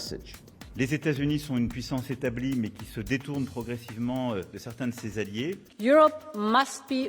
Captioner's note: president Macron speaking French